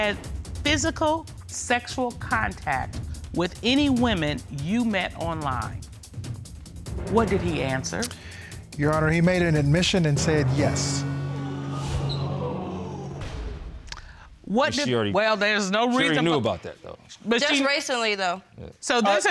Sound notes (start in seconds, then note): 0.3 reading; 11.1 audience exclaiming